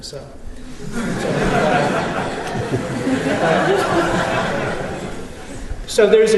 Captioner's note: laughter